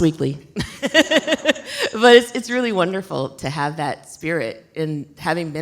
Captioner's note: laughs